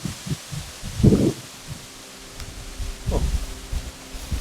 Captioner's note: wind whooshing